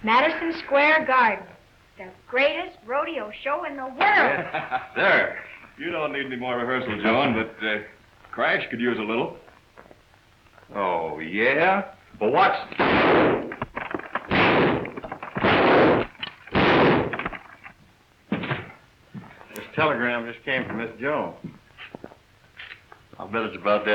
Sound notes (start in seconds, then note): 12.6 gun firing; 12.7 glass breaking